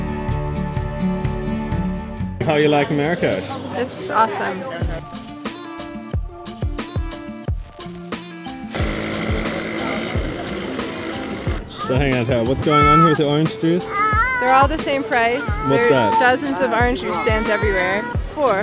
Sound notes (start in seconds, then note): 5.0 ambient music; 8.6 motorbike engine revs